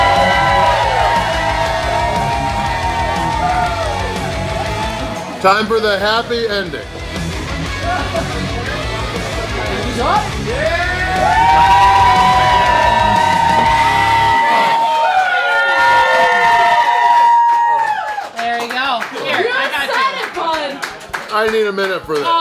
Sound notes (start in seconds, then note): 7.4 crowd; 10.7 crowd cheering